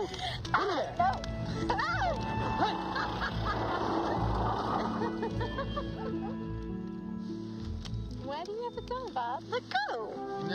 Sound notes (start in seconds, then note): 2.5 Novalyne chuckling; 5.9 soft music